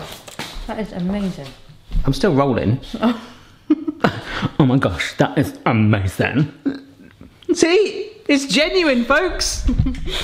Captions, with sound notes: - That is amazing. - I'm still rolling. (laughing) Oh my gosh that is amazing. See, it's genuine folks!